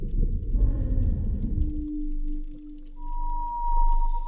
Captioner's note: whale sounds